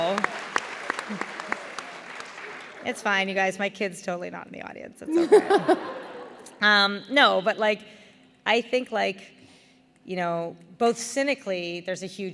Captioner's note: laughter